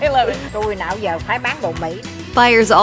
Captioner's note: laughs; speaks Vietnamese